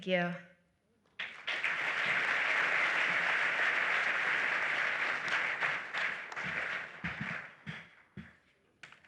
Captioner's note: applause